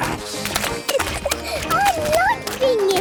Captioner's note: giggling